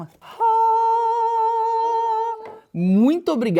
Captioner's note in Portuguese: imitando um som angelical